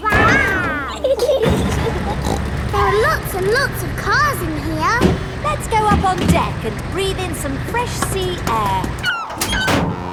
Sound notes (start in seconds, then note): 0.0 giggling; 0.1 snorts